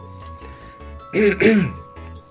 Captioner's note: clears throat